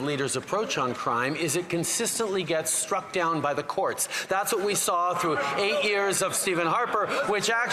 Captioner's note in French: voix de l'interprète